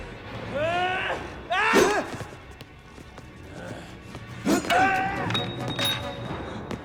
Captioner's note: Gammon yells; ax whooshes